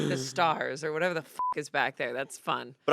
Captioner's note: beep